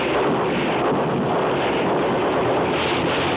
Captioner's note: shouting